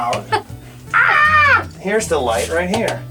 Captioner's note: shrieks